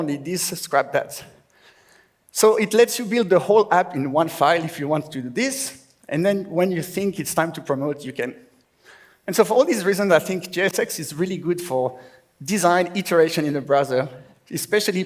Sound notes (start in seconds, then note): none